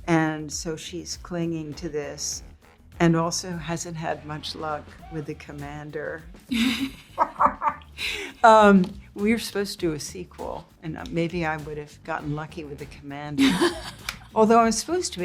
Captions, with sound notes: And, so she's clinging to this and also hasn't had much luck with the commander. (both laugh) We were supposed to do a sequel and maybe I would've gotten lucky with the commander, although I'm supposed